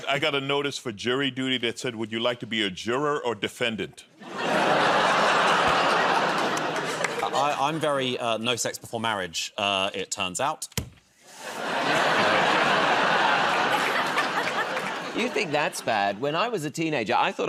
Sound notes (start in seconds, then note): 4.2 laughter; 11.4 laughter